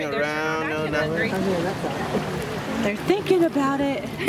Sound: voiceover

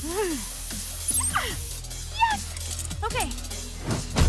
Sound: grunts

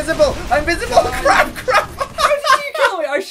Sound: laughs

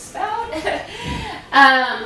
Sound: laughs

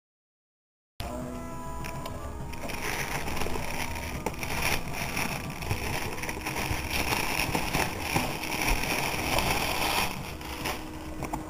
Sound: unboxing sounds

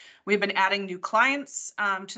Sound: none

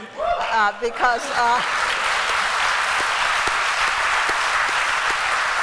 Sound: applause

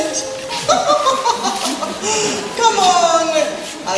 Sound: laughs

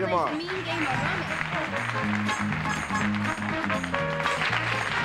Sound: applause

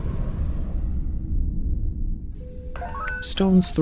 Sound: bridge sounds

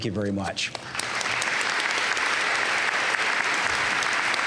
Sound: applause

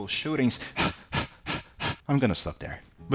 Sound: panting

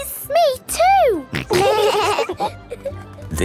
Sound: laughing

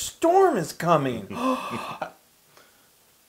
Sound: laugh

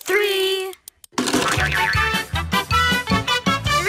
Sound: boing

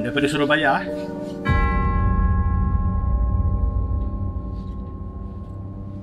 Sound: bell

